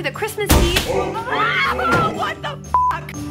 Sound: screams

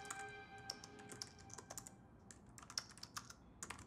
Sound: keyboard clicking

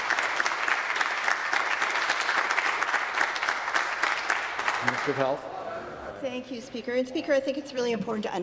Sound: applause

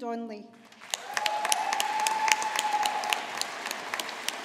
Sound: audience applauding

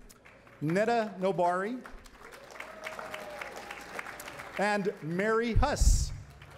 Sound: applause

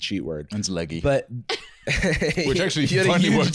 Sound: laughing

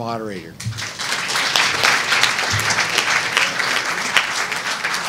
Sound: audience applauding

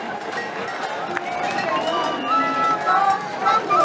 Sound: cheering; flute and drums playing

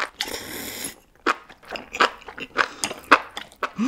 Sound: slurping the sauce as well

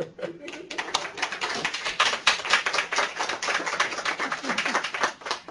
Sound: laughs; applause

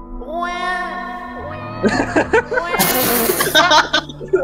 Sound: holy baby noise

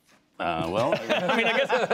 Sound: laughter

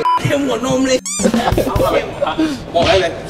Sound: laughs

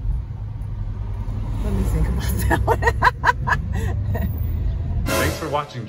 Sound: laughs

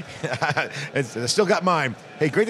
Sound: laughs

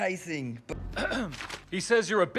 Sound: clears throat

